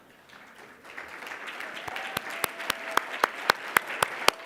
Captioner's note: audience applauding